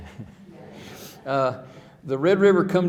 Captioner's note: laughing